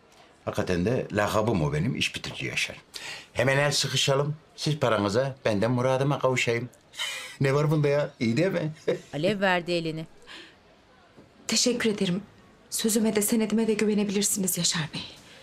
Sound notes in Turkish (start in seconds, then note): 9.0 Yaşar gülme sesi